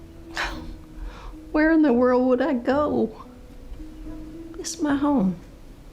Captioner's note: scoffs